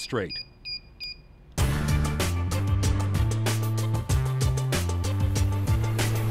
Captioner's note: beeping